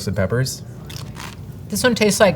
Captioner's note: mouth crunching